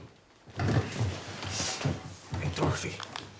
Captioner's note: chair clattering